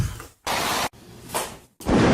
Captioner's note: gunshots